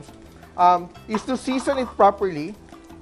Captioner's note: clack